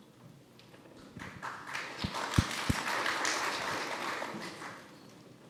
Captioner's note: audience applauding